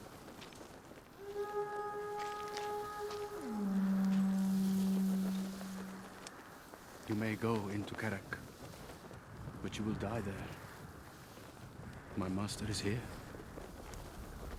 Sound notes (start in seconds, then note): 1.2 horn blowing